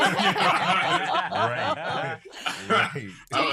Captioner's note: laughter